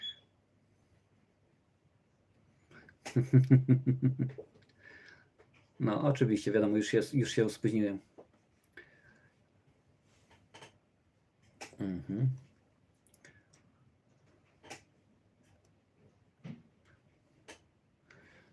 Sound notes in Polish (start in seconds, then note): 3.1 śmiech